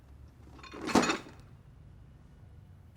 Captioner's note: items clatter